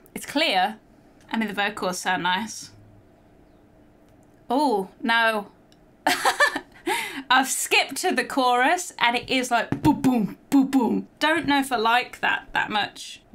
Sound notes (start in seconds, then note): 6.1 laughing